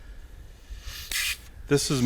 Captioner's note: vacuum suctioning